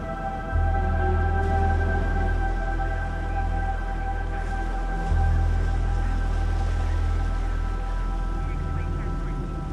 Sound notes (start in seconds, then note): 1.3 water sploshing